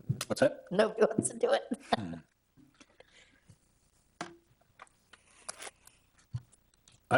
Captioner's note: laughs